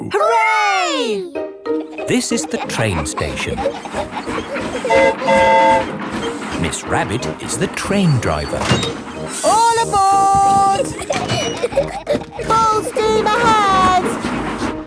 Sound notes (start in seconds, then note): 4.6 train whistle toots; 10.1 giggling